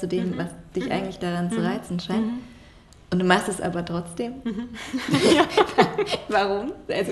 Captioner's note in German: beide lachen